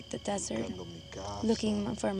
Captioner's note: speaking spanish